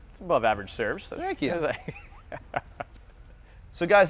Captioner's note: laughs